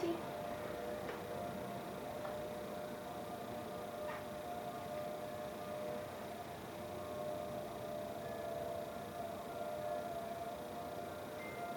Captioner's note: siren